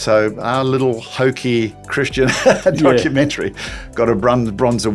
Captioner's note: laughs